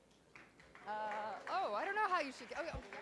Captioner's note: clapping